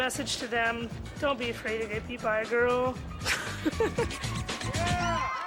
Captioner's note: chuckles